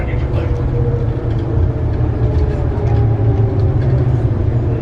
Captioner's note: train whirring